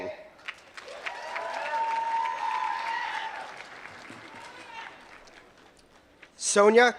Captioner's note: applause